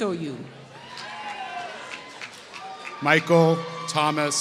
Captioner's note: applause